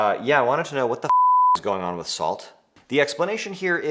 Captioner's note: beep